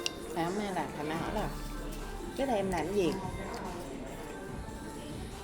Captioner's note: none